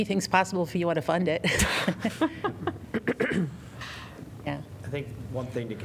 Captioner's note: laughter